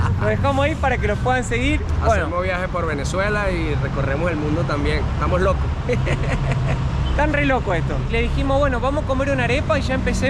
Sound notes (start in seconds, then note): 5.8 laughs